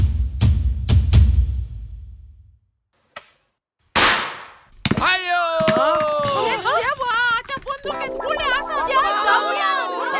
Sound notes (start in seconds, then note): 3.9 gun fired